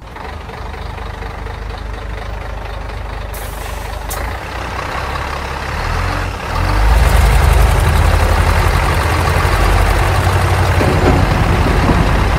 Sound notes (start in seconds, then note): 0.3 large engine idles; 3.2 large engine revs; 3.3 air brakes hiss; 10.7 machinery clunks